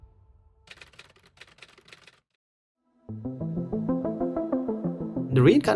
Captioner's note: keypads clicking